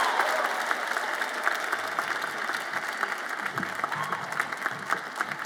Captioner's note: audience applauds and cheers